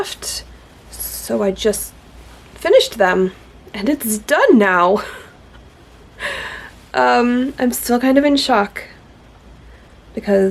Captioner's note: laughs